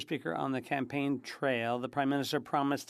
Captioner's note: speaking French